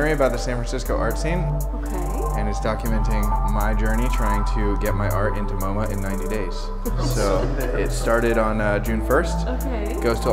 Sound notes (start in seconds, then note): 6.8 woman laughing